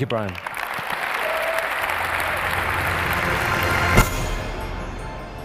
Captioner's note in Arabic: تصفيق